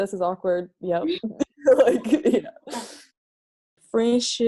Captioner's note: laughing